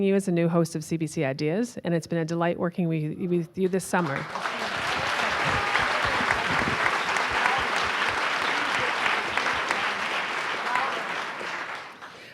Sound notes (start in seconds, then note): 3.9 audience applauding